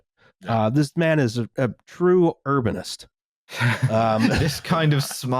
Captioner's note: laughter